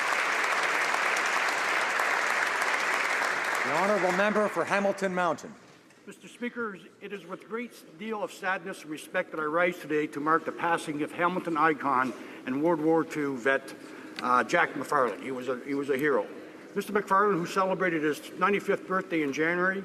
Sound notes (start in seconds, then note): 5.9 some Applause